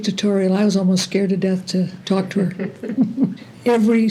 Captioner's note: laughter